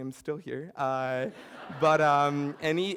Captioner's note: laughter